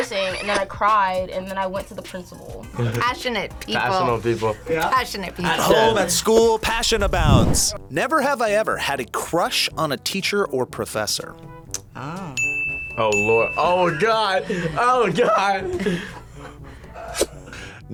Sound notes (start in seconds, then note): 12.3 bell rings